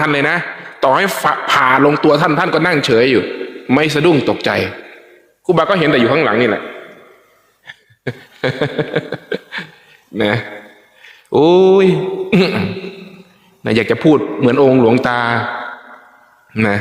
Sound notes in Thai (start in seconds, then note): 7.6 เสียงหัวเราะ